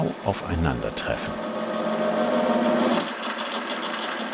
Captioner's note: buzzing drilling